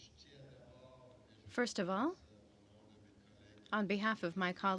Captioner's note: speaking french